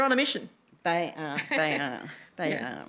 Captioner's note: laughs